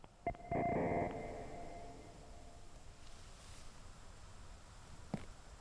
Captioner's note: distorted electronic tones ring